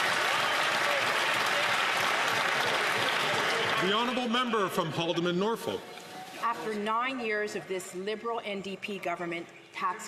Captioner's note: some Applause